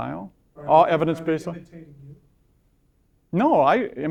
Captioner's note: voiceover